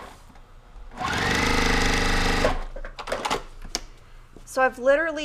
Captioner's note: sewing machine exerting